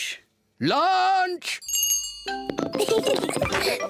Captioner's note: rings bell; both laugh